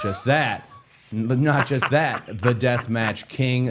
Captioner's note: Matt laughing